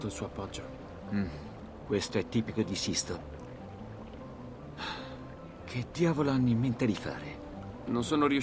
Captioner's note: sighs